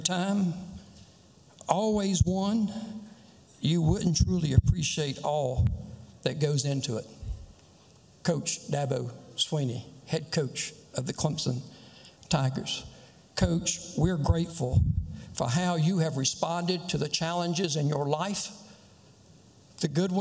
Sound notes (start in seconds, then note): none